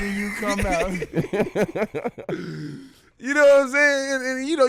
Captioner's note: laughing